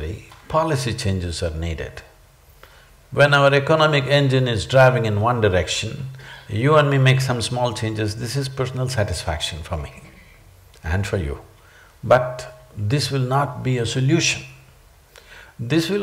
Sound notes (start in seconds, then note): none